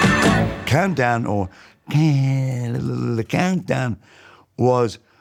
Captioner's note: mimicing the intro music